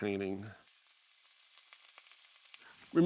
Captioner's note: meat sizzling